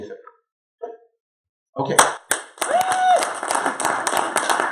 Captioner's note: applause